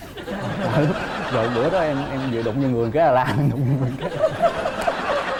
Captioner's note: laughing